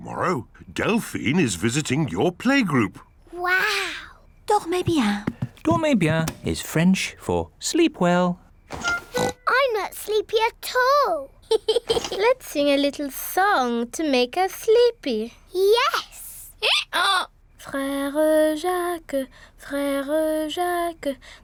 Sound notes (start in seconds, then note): 8.9 oinks; 11.4 giggles; 16.3 brays